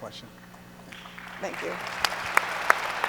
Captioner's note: audience applauds